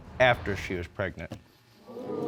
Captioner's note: audience exclaims